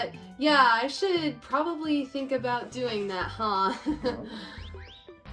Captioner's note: laughs